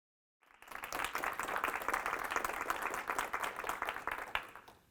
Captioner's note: audience applauds